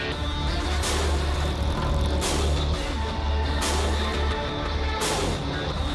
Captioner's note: sound of motorcycle